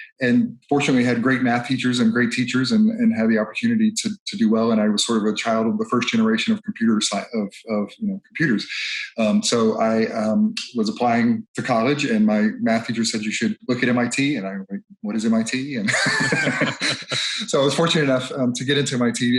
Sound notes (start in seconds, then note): 15.8 laughs